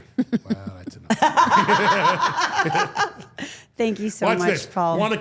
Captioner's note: all laughing